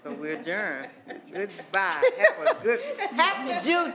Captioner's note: attendees laughing